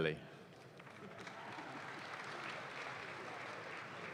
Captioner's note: audience claps